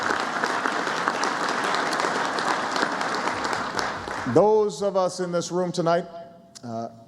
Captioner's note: applause